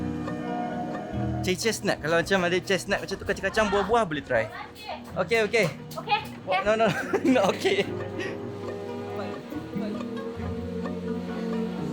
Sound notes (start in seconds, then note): 6.8 laugh